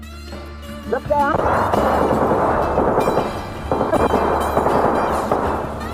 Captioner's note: multiple guns firing; soft country music